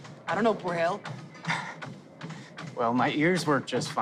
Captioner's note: scoffs